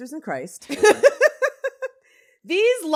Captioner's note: both giggle